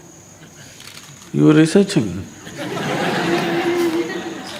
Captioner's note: laughter